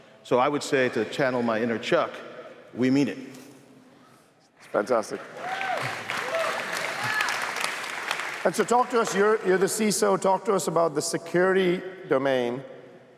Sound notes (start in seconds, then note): 5.1 cheers, applause